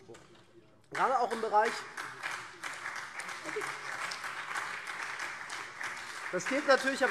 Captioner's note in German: Beifall SPD und CDU